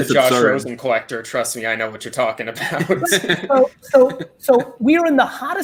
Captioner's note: chuckles